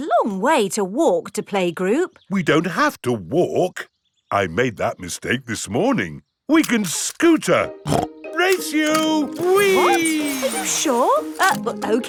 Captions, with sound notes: But it's a long way to walk to playgroup. We don't have to walk. I made that mistake this morning. We can scooter! (SNORTS) Race you! Whee! What? Are you sure?